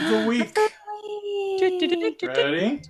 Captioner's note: gasps; mimics fanfare